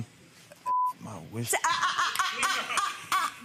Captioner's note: beeps